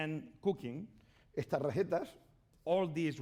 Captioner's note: speaking spanish